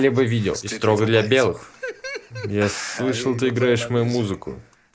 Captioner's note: laughing